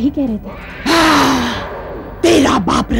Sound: grunts

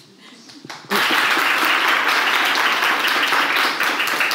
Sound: audience applauds

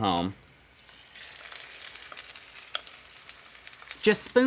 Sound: soft sizzling

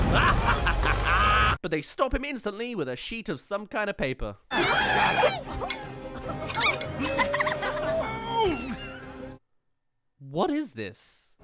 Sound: zip* *Land

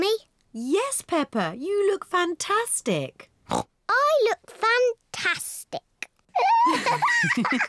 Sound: snorts; both laugh

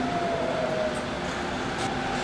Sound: machine whirring

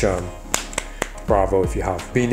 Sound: claps

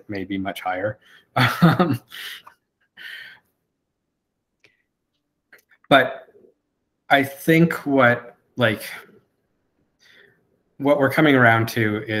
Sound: laughs

